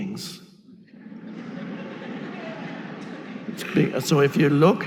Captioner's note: audience laughing